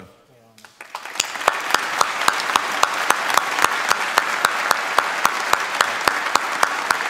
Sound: applause

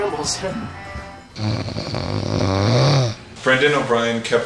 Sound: snoring

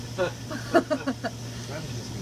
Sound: laughter

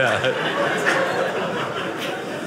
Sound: audience laughing

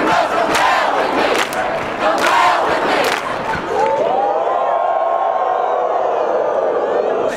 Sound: cheering

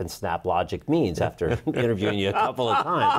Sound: laughs

